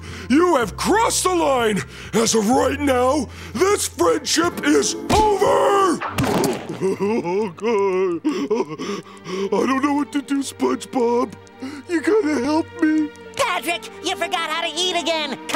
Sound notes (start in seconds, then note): 6.9 crying